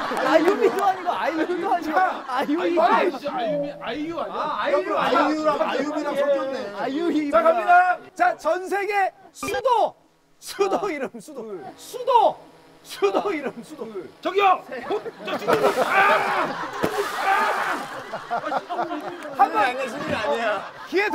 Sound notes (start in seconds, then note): 17.0 screaming